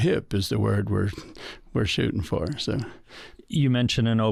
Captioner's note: chuckles